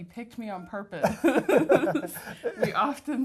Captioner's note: laughter